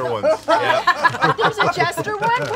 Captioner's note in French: rires